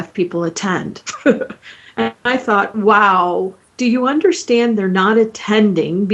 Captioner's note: chuckling